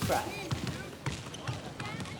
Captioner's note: basketballs bouncing